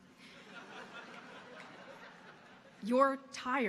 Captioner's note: audience laughing